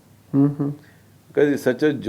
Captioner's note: none